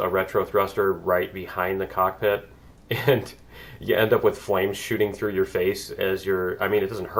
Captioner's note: laughs